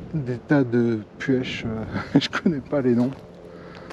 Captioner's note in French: rires